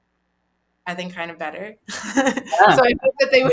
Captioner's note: laughs